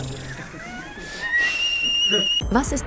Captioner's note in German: Hoher Pfeifton